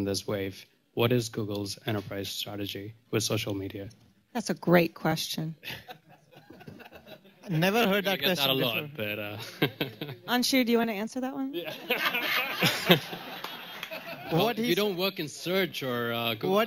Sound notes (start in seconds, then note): 5.6 laughter; 9.3 laughs; 11.5 laughter